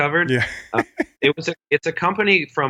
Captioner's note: laughs